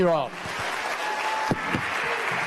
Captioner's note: applause